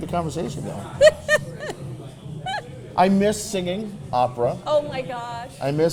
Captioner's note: Mrs. Claus laughing